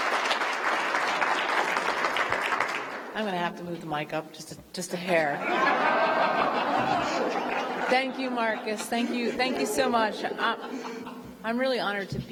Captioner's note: applause